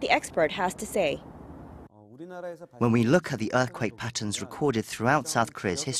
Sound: Korean

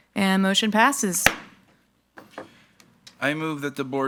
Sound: gavel thuds

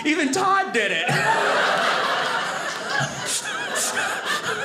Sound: audience laughing

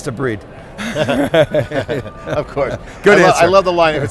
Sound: all laughing

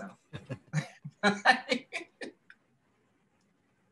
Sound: laughter

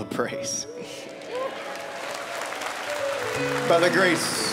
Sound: applause

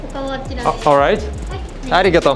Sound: something in Japanese

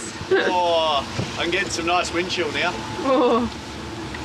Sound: groans

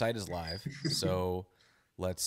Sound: laughs

